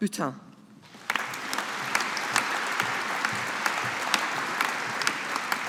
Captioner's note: audience applauding